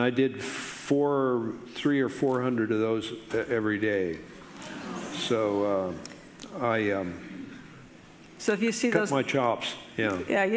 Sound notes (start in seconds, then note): 4.0 audience murmurs in surprise